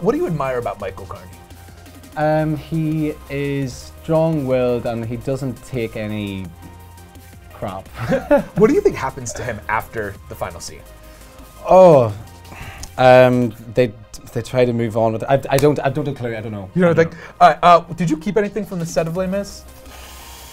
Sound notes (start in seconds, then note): 8.0 laughing